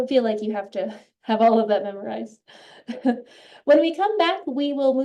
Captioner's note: laughs